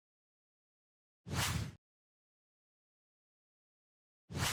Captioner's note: words whooshing